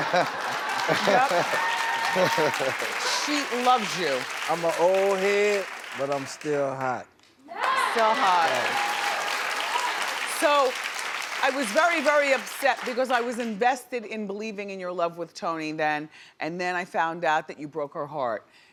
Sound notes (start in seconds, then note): 7.4 audience cheers